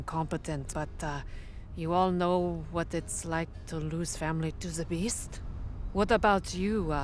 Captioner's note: none